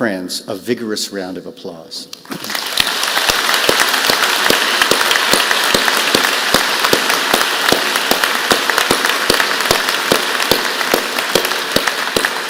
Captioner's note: applause